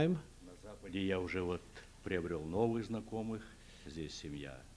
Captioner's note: non-english speech